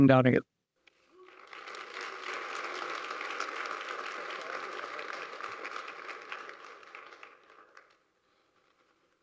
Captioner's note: applause